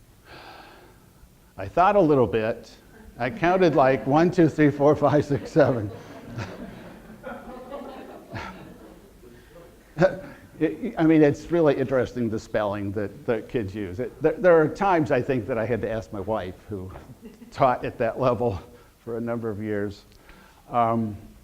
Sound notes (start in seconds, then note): 5.4 audience laughter